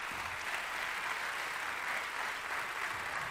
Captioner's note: applause